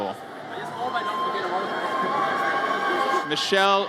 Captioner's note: audience cheers